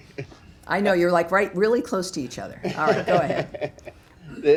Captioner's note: laughter